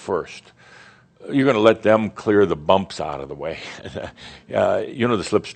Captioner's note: Adamus chuckles